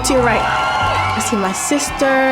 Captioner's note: crowd cheering